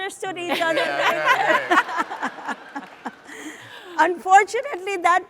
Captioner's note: audience laughs